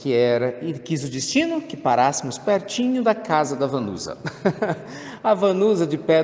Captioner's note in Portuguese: risos